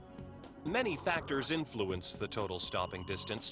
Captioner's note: voiceover